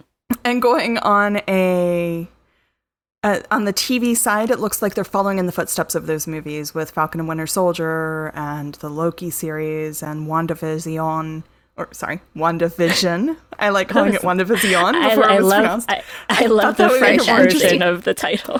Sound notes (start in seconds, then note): 9.9 French accent; 14.3 French accent